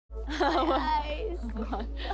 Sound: soft music; laughs

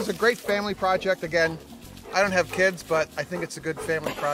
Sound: dog pants

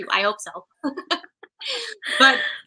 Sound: laughter

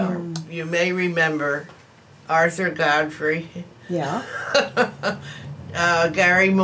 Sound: laughs

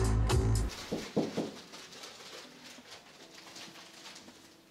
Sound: door knocking

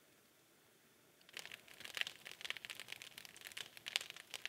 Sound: fire crackling

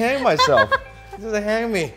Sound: laughing

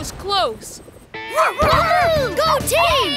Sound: barking

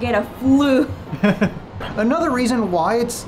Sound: chuckling

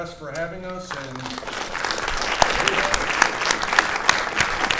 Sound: all applauding

